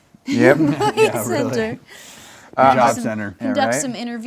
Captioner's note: laughs